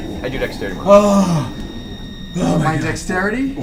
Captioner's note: groans